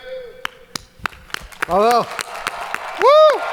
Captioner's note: audience cheering